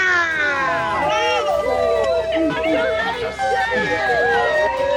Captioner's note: grads applaud